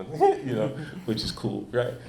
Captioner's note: chuckles